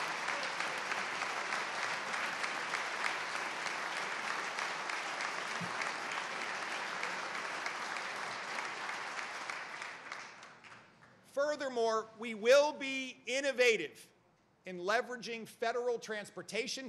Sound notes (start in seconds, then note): 1.7 applause